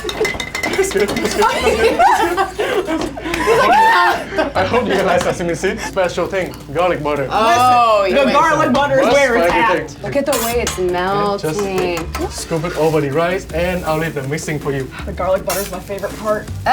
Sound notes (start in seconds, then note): 1.3 laughing